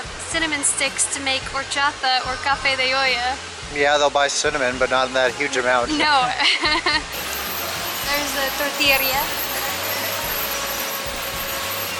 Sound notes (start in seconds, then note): 6.0 laughs